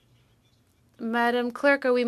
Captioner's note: speaking French